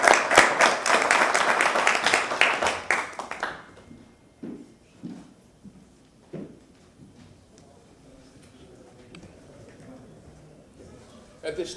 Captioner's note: applause